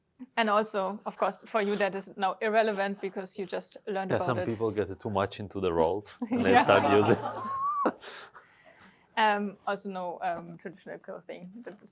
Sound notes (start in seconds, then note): 6.2 laughter